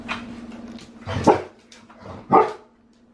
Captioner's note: Harlow barks twice